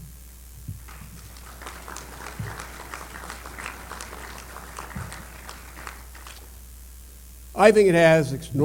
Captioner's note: applause